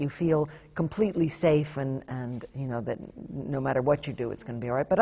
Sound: none

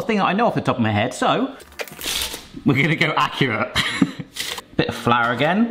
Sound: chuckles

